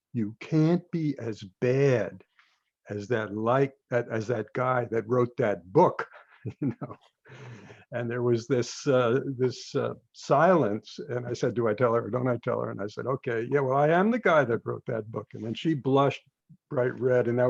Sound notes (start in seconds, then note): 6.0 chuckles